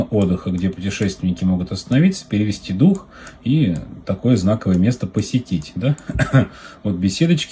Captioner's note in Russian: смех